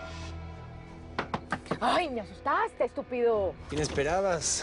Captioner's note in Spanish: Golpes en el techo